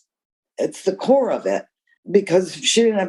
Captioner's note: none